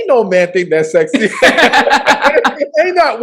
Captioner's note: laughs